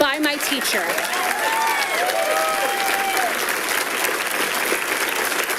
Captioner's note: people cheering and clapping